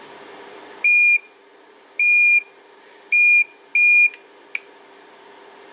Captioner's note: beep, beep, beep, beep